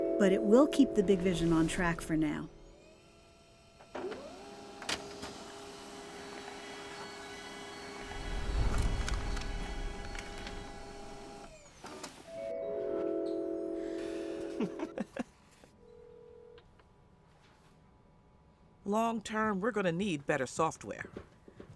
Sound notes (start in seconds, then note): 0.1 ascending vibraphone; 4.0 printer whirring; 6.4 crystals chiming; 6.4 printer whirring; 14.4 chuckling